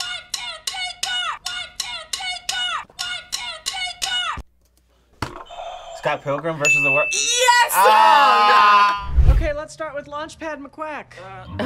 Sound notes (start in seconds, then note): 5.3 buzzer rings; 6.6 bell rings